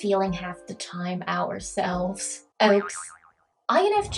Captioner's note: bouncy sound